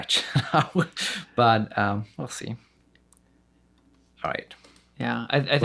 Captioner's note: laughs